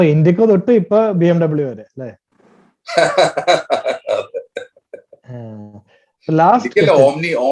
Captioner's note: joju Laughs in joy